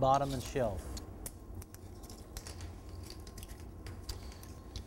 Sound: scissors cutting edge banding

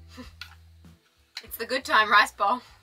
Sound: chuckles

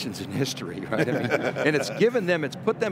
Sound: group laughing

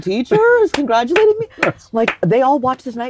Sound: Tony clapping

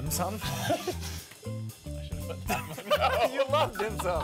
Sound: laughter

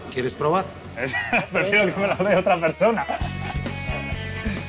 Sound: laughs

